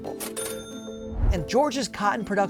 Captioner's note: cash register dinging